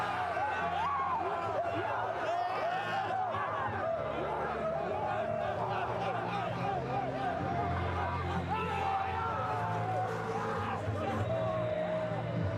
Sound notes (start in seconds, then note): 2.1 screaming; 3.7 cheering